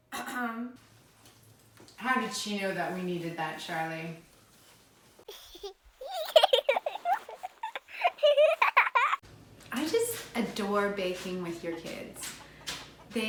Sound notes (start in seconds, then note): 0.2 clears throat; 5.3 child chuckling